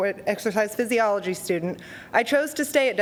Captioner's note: none